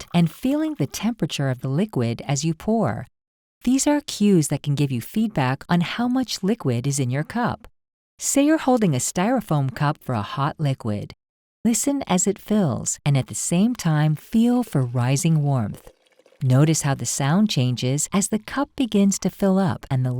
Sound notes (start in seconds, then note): 13.8 coffee sloshing